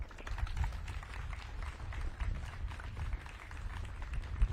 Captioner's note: audience claps